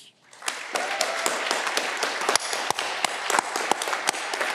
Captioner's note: audience clapping